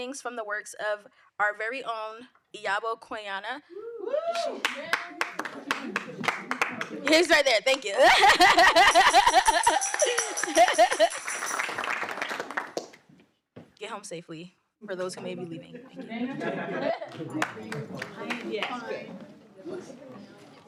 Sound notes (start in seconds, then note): 4.2 audience cheering and applauding; 7.9 laughs; 9.7 audience cheering and applauding; 14.9 people chattering